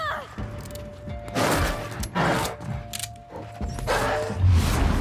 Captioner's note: enemies barking